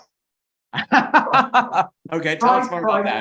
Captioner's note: chuckles